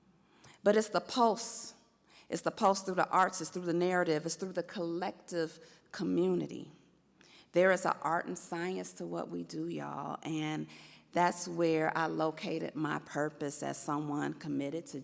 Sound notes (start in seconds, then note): none